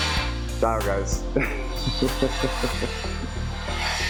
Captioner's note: chuckles